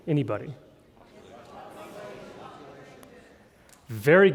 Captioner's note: crowd talking at same time